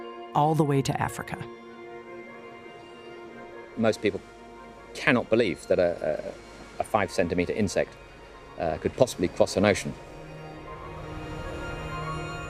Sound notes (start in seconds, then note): none